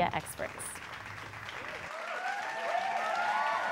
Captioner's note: applause